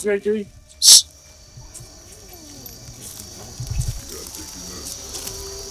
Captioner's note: hissing